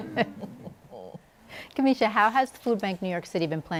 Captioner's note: laughter